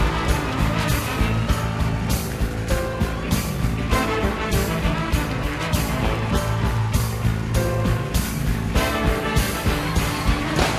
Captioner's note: band playing; cheers and applause